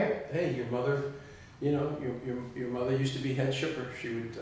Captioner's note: stuttering